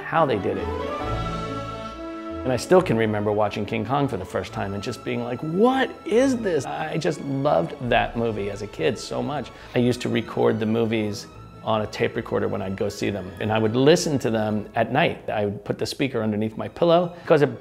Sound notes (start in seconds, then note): 5.5 excitedly